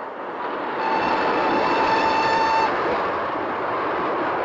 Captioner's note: train whistle